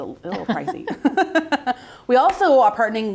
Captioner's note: both laughing